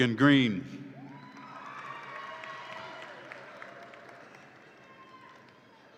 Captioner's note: audience applauds and cheers